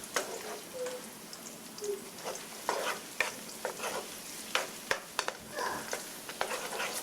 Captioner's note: scraping